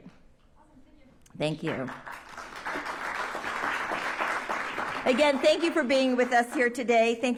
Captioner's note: applause